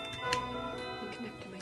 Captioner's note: snap